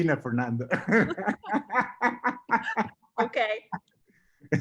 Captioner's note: both laughing